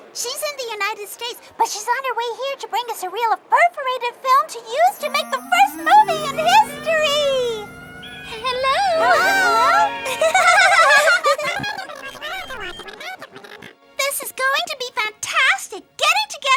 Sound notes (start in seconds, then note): 10.1 triplets giggling; 11.9 mice chittering